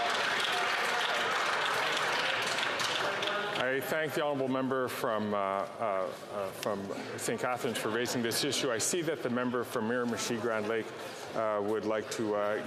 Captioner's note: some Applause